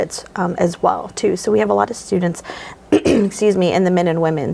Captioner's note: clearing throat